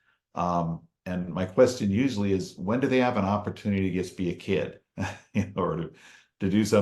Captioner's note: chuckles